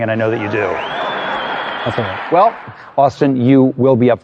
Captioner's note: laughter